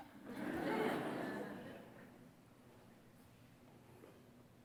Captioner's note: audience laughs